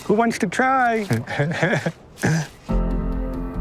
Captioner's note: laughing